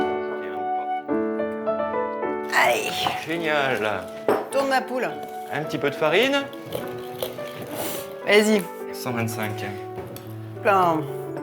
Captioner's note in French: grognement